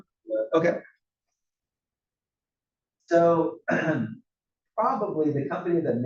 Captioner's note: cough